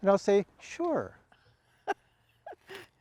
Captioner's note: laughs